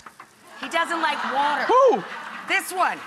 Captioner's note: audience laughs